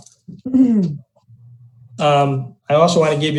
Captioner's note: throat clearing